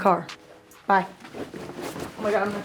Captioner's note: feet shuffling